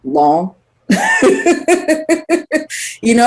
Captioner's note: laughs